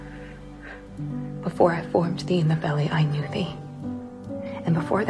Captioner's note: voiceover